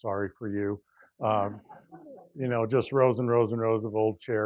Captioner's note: laugh